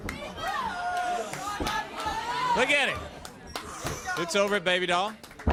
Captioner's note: crowd chatter